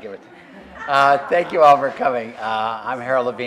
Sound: laugh

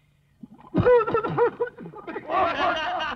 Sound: cough, Cough; laughs

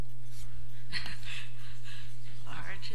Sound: laugh

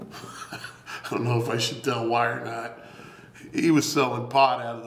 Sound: laughs

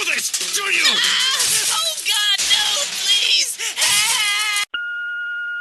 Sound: breaking objects

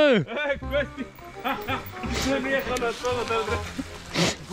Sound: fiddler laughing xD

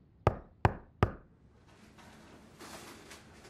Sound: door knocking

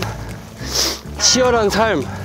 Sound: sniff

